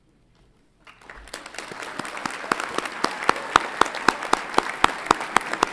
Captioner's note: audience applauds and cheers